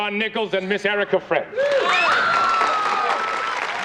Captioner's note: all cheering